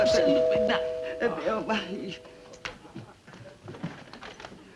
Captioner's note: doorbell rings